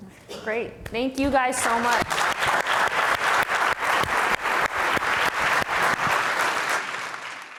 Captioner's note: audience applauding